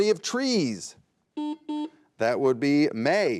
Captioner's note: buzzer beeps